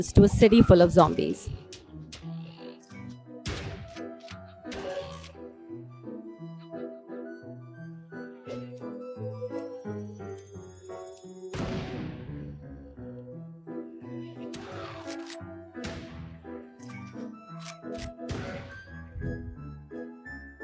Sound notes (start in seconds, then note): 11.5 gun explosion; 15.9 gun shot